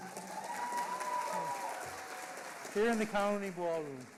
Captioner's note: audience applauding loudly